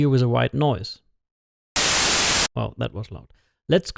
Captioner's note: harsh static